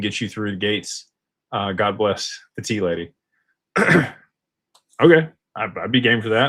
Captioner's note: clears throat